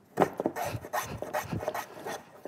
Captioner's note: scratch